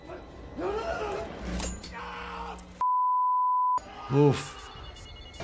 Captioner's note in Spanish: víctima gritando